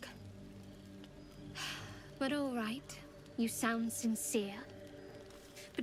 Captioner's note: sighs